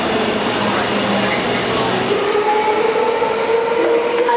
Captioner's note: fast train sounds